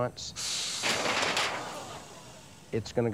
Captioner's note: alligator hissing; clanging